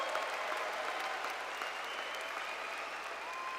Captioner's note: cheers and Applause